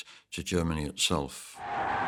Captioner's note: cheering